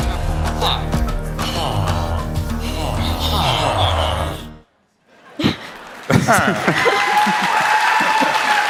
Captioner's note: applause